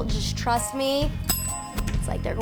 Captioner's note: bell ringing